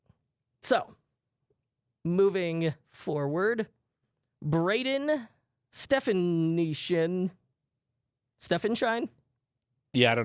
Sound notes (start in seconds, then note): none